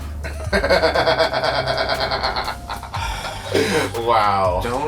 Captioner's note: William laughing